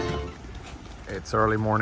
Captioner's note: birds flapping